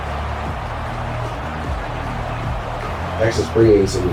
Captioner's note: crowd Noises